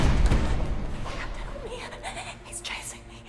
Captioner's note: loud sinister music; shivers